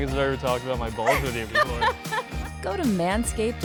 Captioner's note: woman laughing